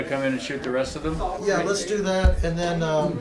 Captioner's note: multiple conversations going on in the background